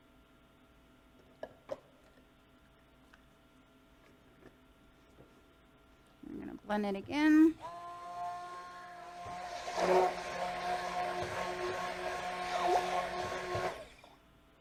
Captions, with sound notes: Then I'm going to blend it again. (blender whirring)